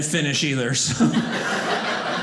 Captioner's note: audience laughing